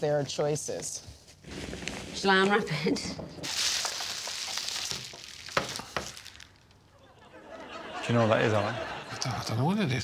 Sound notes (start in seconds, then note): 3.4 plastic rustling; 3.4 packing peanuts rustling; 6.9 audience chuckling